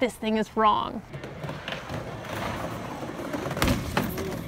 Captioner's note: skateboard noises; falling noises